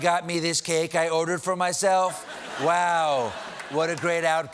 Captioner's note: laughter